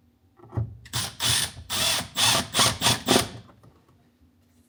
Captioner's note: drill whirring